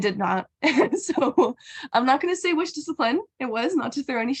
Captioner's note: laughs